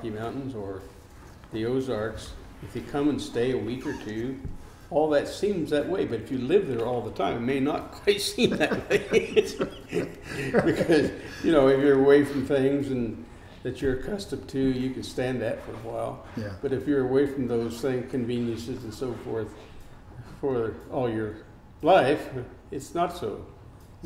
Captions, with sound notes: or the Rocky Mountains or the Ozarks. If you come and stay a week or two, all of that seems that way. But you live there all the time may not seem that way. (laughing) Because, you know, when you're away from things that you're accustomed to you can stand that for a while. But, if you're away from those conveniences and so forth for all your life, it's not so.